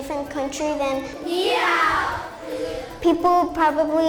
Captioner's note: students speaking in foreign language